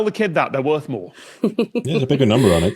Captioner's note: snickers